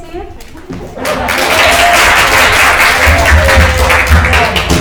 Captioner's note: crowd applauding